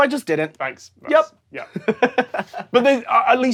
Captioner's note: giggles